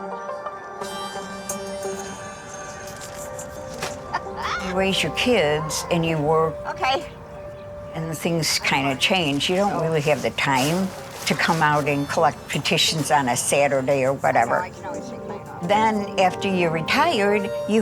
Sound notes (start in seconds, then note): 0.2 suspenseful music; 2.8 bag crackles and thuds; 4.0 laughs